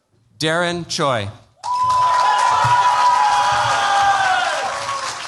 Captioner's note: cheers, applause